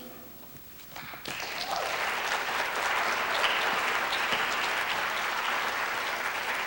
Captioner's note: applause